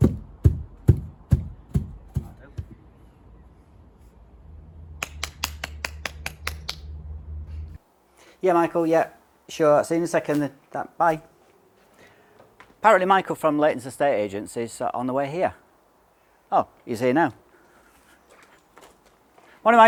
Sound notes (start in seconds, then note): 2.4 applause